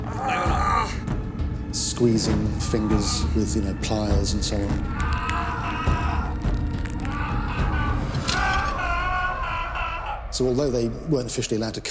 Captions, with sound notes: So they would use the rack. People were stretched or arms would be dislocated. (rope creaks) (groans) Squeezing fingers with pliers and so on.